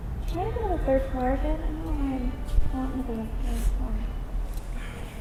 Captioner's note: speaking faintly